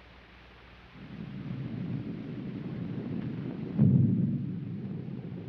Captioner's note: thunder rumbling